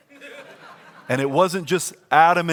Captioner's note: congregation laughs